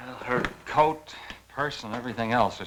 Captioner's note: none